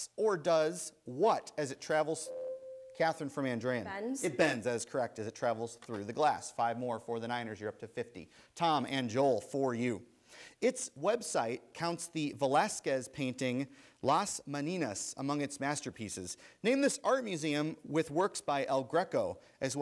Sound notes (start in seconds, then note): 2.2 ding